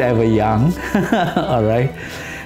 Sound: laughs

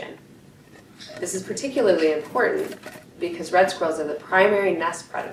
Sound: sound, cage rattling

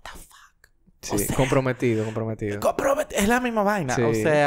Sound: whispers

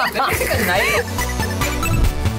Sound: laughs; upbeat 8-bit music

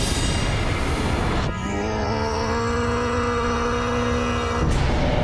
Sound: growling

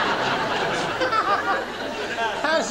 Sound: laughter

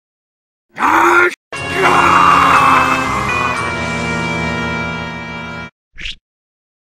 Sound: screams upon seeing what had happened

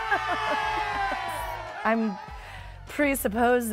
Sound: laughter; audience applause

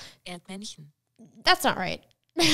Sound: foreign language

